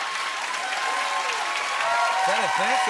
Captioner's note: cheering; laughter and applause